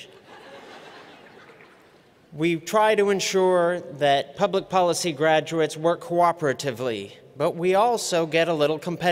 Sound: laughter

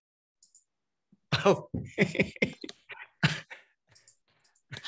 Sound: laughing

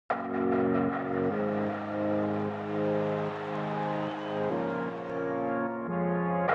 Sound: calm music; crowd cheering

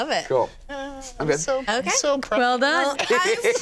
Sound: laughs

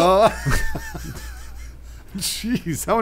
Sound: laughing

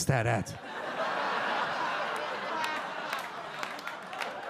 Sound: audience laugh

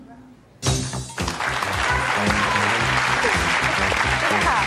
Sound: upbeat music; applause

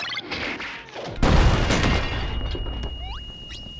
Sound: loud bang

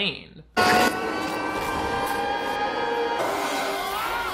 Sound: Cyrus screaming

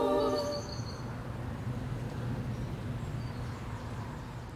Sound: birds chirping

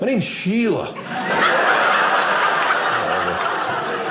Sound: audience laughing

